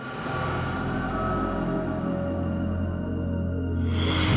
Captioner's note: crickets chirping